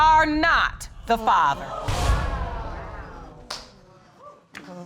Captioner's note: audience exclaiming